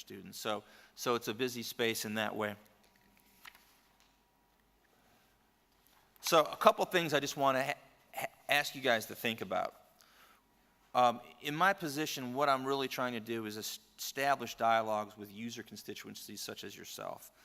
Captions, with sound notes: and meet with their students. So, it's a busy space in that way. [silence] So a couple things I just want to ask you guys to think about. In my position, what I'm really trying to do is establish dialogues with user constituencies such as yourself.